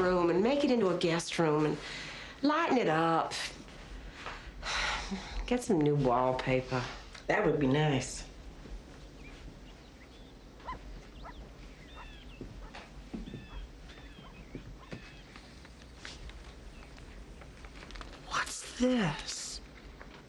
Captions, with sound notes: AND MAKE IT INTO A GUEST ROOM AND LIGHTEN IT UP. [SIGHS] GET SOME NEW WALLPAPER. THAT WOULD BE NICE. [DOG BARKING] WHAT'S THIS?